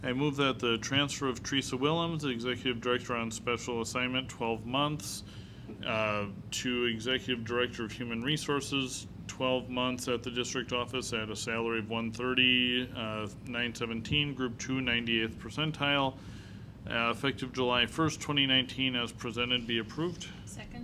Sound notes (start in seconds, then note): none